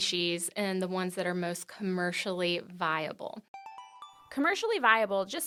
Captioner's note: chime